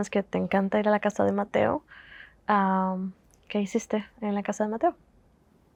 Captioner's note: Spanish